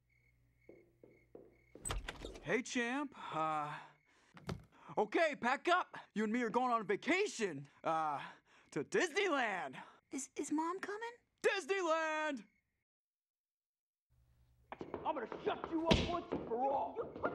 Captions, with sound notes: [FOOTSTEPS] - HEY, CHAMP. UH, OK. PACK UP. YOU AND ME ARE GOING ON A VACATION, UH, TO DISNEYLAND. - IS--IS MOM COMING? - DISNEYLAND! - I'M GONNA SHUT YOU UP ONCE AND FOR ALL!